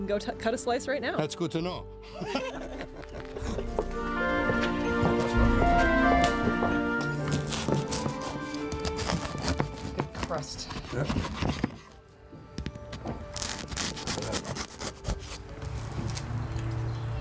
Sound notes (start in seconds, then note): 2.1 laughter; 7.2 cutting sound